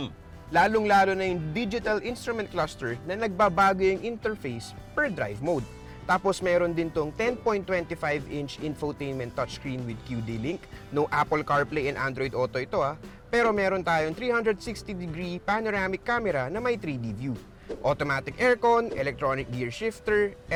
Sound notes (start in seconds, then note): none